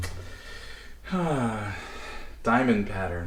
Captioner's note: sigh of deep satisfaction